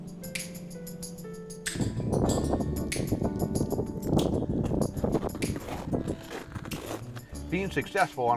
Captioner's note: wind gusting